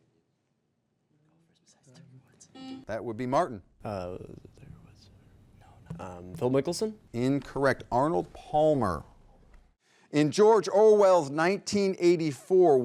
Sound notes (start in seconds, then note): 2.6 buzzer buzzes